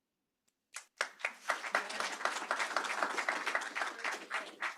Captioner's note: applause